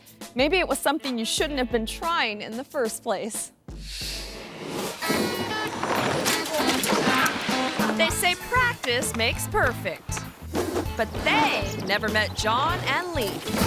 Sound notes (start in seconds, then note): 3.9 screen swooshes; 4.3 bicycle whooshes; 5.0 mid-tempo instrumental music